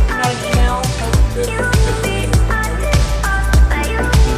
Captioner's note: lively upbeat music; people chatting